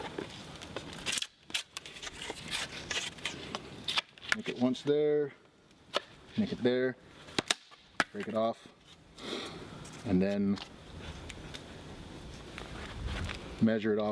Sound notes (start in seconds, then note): 3.3 wood scraping